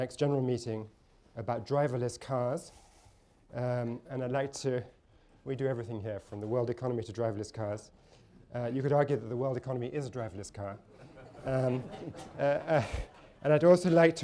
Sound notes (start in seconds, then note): 10.9 laughter